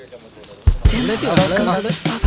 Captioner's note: indistinct chatter